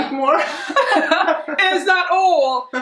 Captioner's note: both laugh